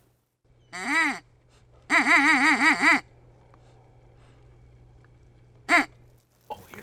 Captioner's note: sounds of a duck call